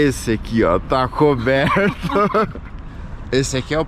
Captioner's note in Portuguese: risos